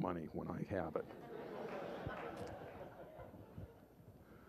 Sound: laughter

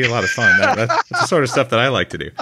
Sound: laughs

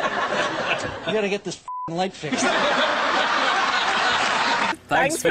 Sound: laughs; laughs

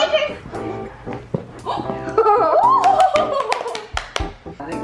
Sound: laughs; applause

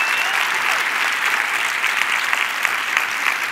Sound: cheers and applause

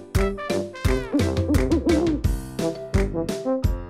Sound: owl hoots

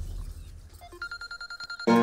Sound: phone rings

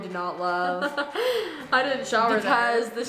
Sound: laughs

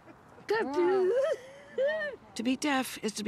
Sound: woman exclaiming joyfully

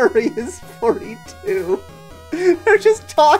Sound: laughing

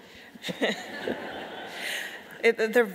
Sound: audience laughing

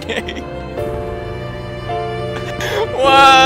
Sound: screams in the distance

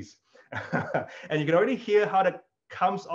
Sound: laughs

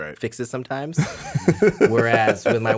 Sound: Justin laughs

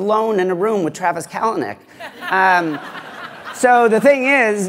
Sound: laughter

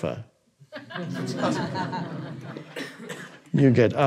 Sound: audience laughing

